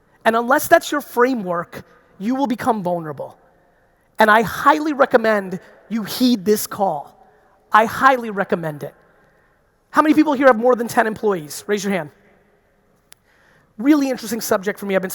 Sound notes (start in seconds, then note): none